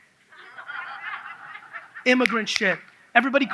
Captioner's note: audience laughs